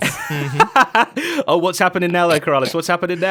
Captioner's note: laughs